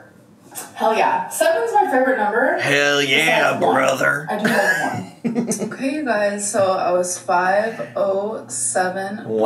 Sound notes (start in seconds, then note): 4.4 laughs